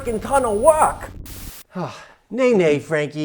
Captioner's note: static crackling